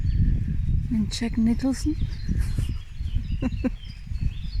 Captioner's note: laughing